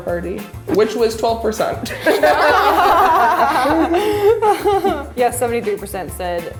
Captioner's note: laughing